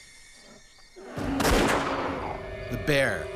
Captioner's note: voiceover; gun fires